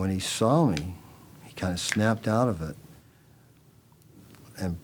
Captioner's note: fingers snapping